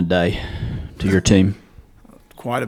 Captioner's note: laughs